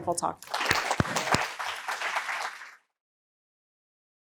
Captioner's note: audience applauding